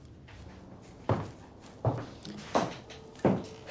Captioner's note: footsteps